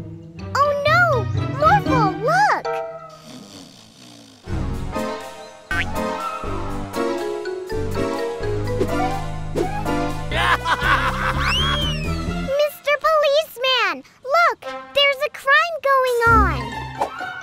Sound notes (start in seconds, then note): 3.1 Mayor snoring; 4.4 dramatic music; 10.2 bandits laughing